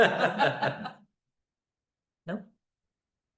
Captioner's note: laughter